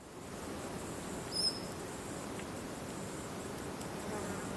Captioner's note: nature sounds